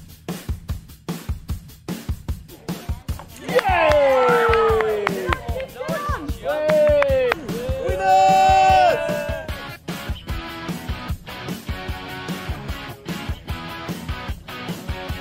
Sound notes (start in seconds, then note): 3.3 cheering